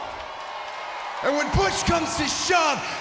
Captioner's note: audience cheers